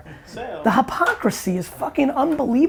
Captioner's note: group laughs